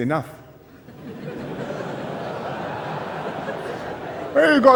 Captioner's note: laughter